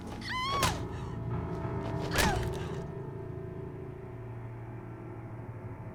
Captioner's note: Joia screams; thuds